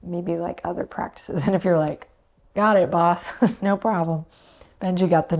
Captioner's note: chuckles